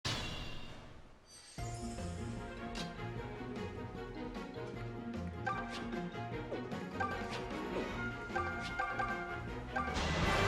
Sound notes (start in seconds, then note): 0.0 turn start clang